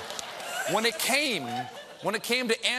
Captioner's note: laughter